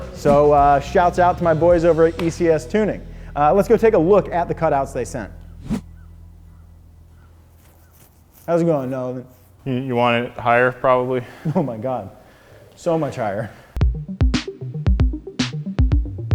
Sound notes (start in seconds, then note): 5.3 air whooshing; 13.8 upbeat music